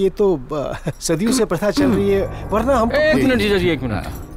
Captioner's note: Clears throat